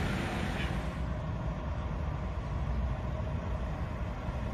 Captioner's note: engine running